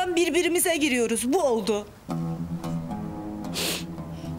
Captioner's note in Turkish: ağlar